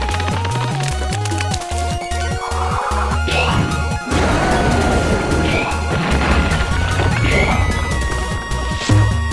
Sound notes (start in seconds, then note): 3.2 roar